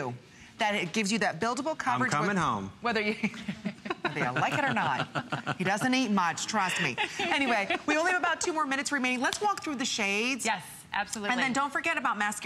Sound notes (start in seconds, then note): 6.1 laughter